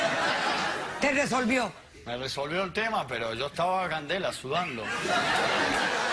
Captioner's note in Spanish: risas